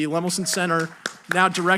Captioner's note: audience applauding